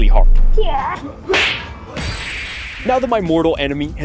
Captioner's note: believable ninja noises